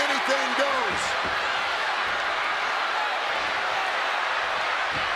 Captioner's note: audience cheers